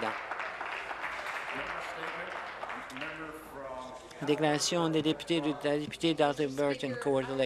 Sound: applause

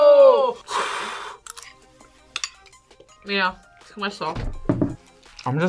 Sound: sighs

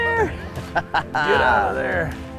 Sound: laughs

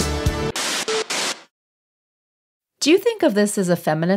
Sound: upbeat music; video buzzing

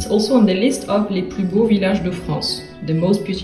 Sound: speaks French

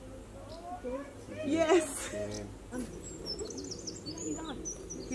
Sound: onlookers exclaim

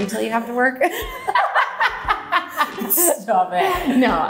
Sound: both laughing

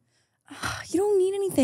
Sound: sighs

